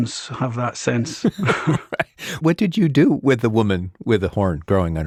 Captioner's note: laughs